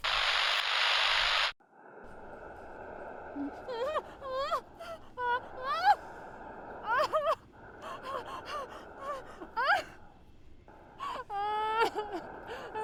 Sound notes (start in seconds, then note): 0.0 camera buzzing; 3.6 Sarah whimpering and crying